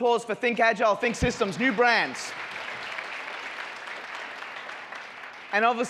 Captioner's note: audience applauds